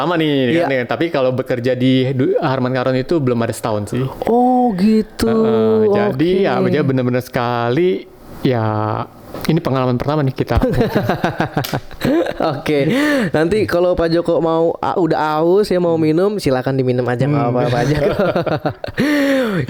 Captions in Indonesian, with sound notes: lama nih. Tapi kalau bekerja di Harman Karon itu belum ada setahun sih. Oh gitu. Jadi ya benar-benar sekali ya ini pengalaman pertama nih kita. [tertawa] Oke nanti kalau Pak Joko mau udah haus ya mau minum silakan diminum aja enggak apaapa aja [tertawa]